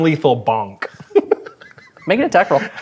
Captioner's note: laughing